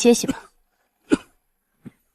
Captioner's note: cough